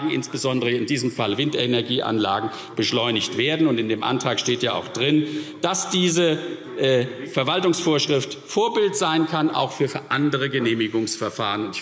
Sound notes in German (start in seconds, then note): none